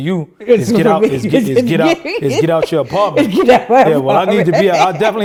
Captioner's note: laughing